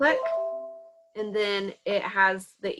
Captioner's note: email dings